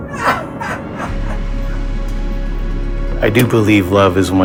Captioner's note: person yelling